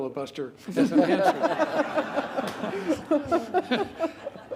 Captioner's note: laughter